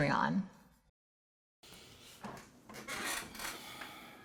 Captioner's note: the sound of a very expensive chair squeaking